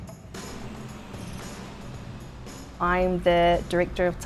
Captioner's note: vehicle engine roars